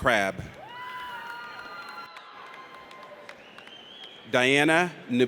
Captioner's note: audience cheers